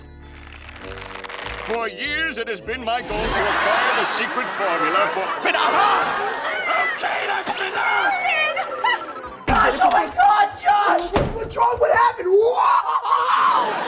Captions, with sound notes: For years it has been my goal to acquire the secret formula for-- [yelling] - OK, that's enough! - Sheldon! Oh my God, Josh! What's wrong? What happened-- Whoa!